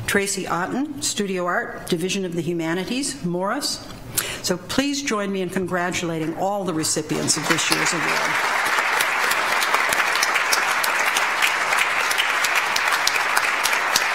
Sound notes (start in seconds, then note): 7.1 audience applauds